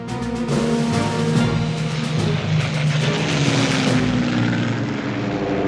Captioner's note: airplane engines roar